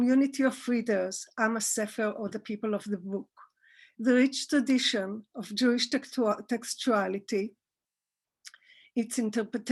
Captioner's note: Hebrew